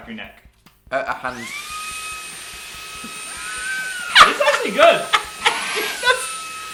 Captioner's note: both laughing